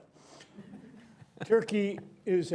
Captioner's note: laughter